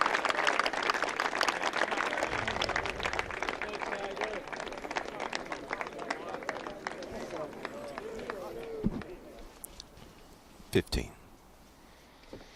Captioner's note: applause